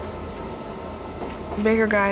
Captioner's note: knocking